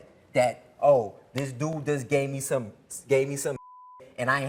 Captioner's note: beep